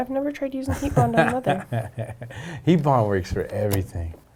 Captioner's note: laughing